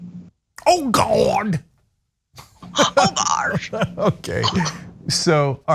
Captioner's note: laugh